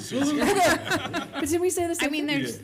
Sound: laughing

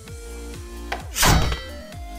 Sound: weapon breaks

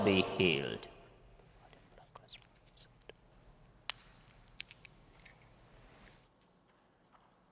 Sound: whispering

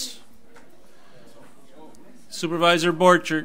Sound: overlapping chattering

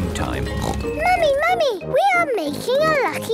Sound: snorts

